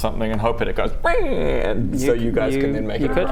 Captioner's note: abused puppy dog sound